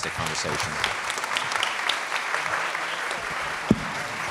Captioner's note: audience applauding